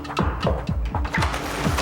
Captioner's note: knuckles rapping; door clicks